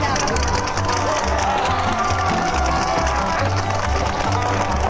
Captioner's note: bull hooves clopping